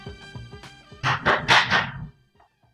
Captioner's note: Door knocking